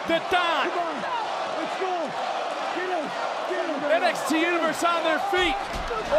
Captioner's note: yelling